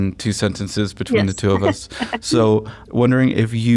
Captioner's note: laughter